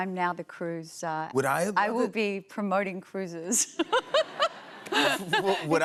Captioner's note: laughter